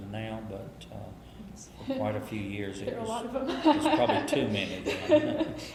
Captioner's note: laughs